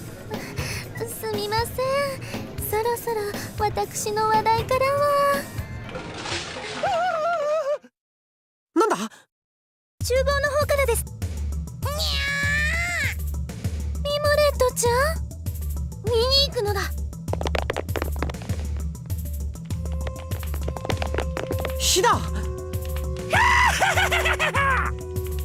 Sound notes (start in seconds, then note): 7.4 panicked scream; 12.5 pained cry; 23.3 villain laugh